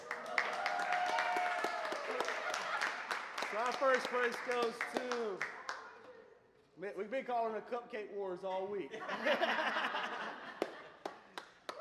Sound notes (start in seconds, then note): 0.0 applause; 8.9 laughter; 11.0 applause & cheers